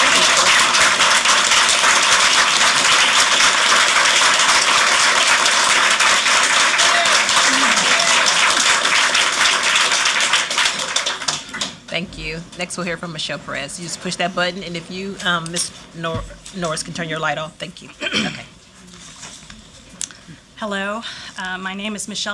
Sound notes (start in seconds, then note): 2.6 applause